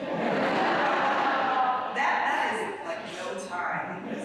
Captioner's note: audience laughs